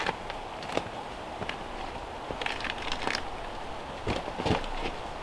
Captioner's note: bark crackling